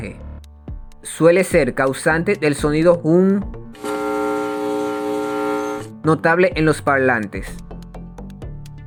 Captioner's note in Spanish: sonido hum